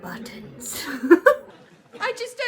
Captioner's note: laughs